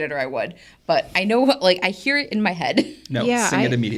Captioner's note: laughs